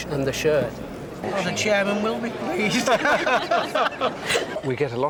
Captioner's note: laughter